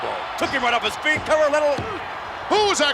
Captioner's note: referee smacking mat